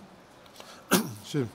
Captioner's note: coughing